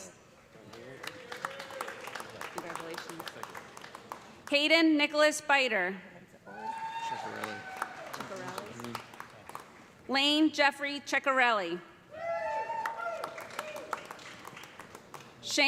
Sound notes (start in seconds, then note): 0.6 applause; 6.5 cheers and applause; 12.1 cheers and applause